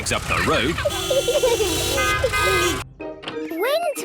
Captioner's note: horns toot